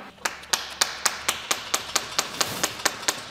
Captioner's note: knocking